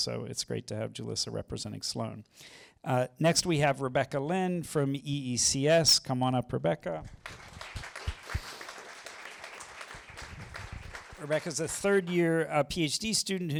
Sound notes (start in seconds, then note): 7.1 applause